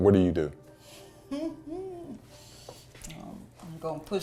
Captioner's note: chuckles